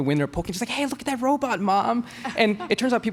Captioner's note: both laugh